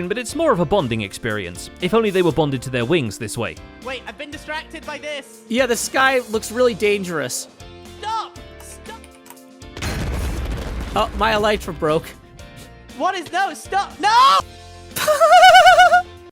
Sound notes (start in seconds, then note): 8.4 frantic spacebar tapping; 13.7 shouts; 15.0 startled laughter